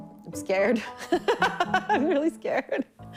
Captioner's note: laughing